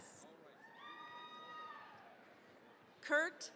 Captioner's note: cheering, applause